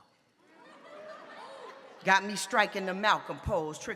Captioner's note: audience laughs